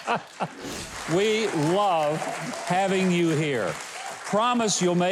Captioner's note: Mike and audience laughing; audience applauding